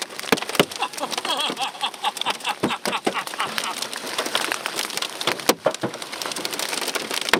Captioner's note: hail pattering; laughing